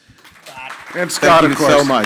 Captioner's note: crowd applauding